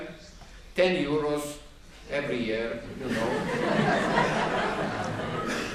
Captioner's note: laughter